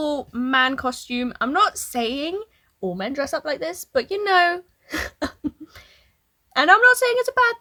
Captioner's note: laughs